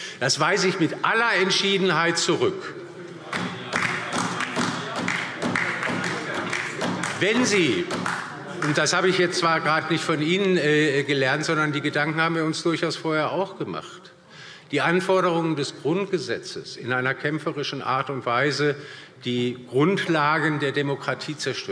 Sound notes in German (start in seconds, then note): 3.3 Beifall DIE LINKE